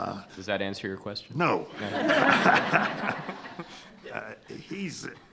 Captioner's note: attendees laughing